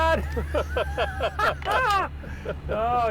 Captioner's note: laughs